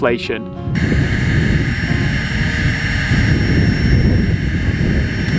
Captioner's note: pump whirling